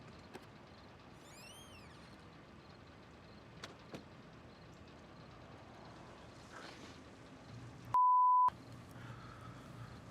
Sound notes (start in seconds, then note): 1.2 door creaking